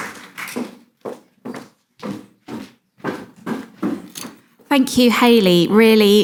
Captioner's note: footsteps pattering